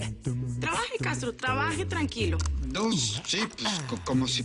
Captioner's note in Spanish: Tecleo